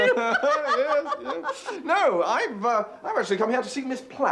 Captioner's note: laughs